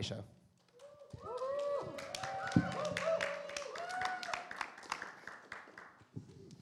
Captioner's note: audience applause